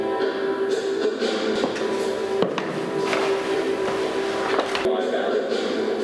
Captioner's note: sound of footsteps; music from an artwork plays in the background